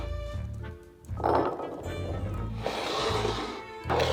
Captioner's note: chickpeas dropping